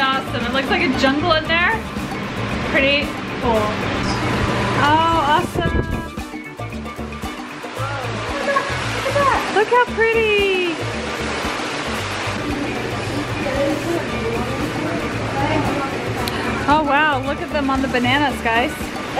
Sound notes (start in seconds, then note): 6.2 tropical music; 10.8 splashing water